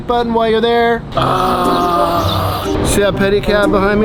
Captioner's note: groans